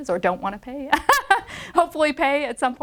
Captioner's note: laughs